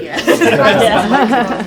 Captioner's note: laughter